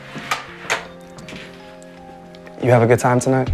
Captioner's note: latch clicks